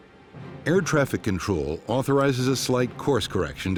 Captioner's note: voiceover